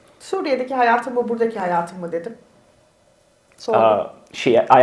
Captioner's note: speaks in Turkish